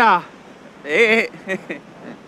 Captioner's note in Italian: risatina soffocata